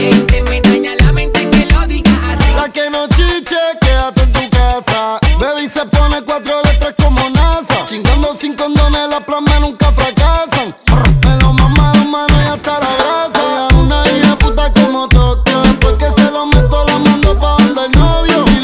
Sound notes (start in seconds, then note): 10.8 brrr